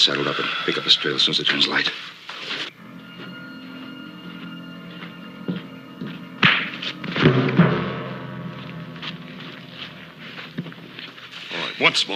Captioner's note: punch lands